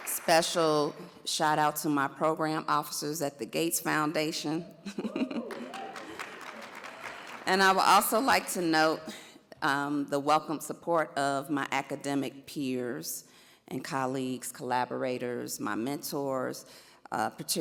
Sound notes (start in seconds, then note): 4.8 chuckles; 5.4 audience applauds